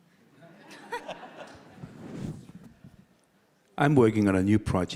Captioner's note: audience laughing